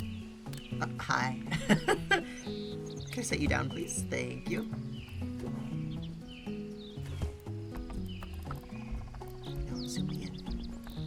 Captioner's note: laughs